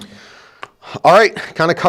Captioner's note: claps hands